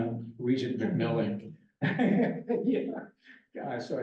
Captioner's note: laughs